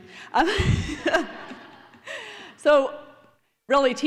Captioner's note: laughter